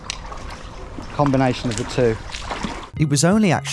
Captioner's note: water splashes